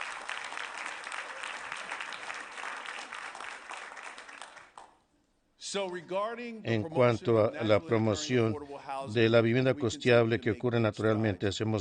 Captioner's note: applause